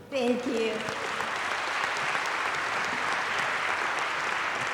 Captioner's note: applause